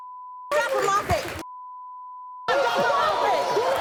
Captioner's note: beep; beep; crowd noise and yelling; beep